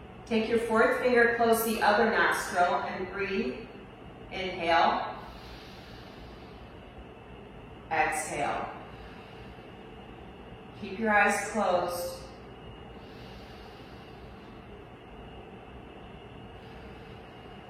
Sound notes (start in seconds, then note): 5.1 inhales; 8.2 exhales; 15.6 inhales